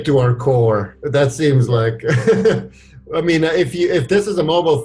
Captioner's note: laughs